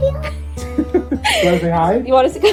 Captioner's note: laughing